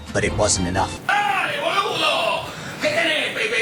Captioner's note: Spanish